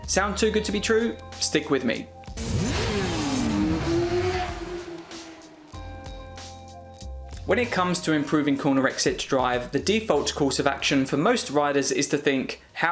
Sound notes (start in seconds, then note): 2.3 motorbike engine roaring; 5.6 soft music